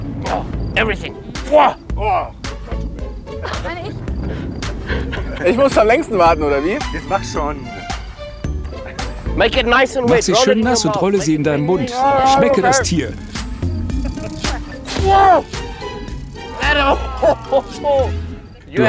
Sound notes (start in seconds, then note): 2.1 laugh